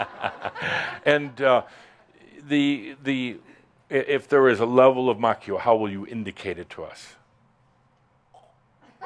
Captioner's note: laughter